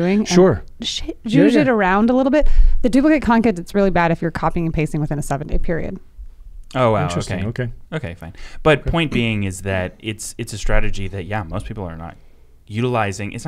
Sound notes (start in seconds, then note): none